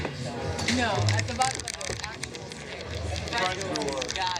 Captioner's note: clicking